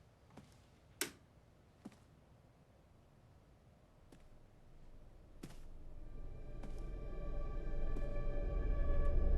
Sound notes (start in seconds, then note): 1.2 light switch flicks; 5.8 suspenseful music